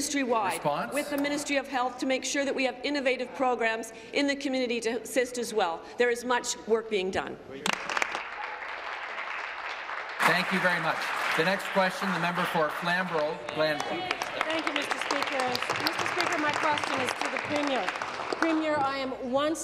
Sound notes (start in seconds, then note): 11.4 applause; 17.5 applause